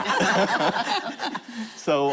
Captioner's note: laughter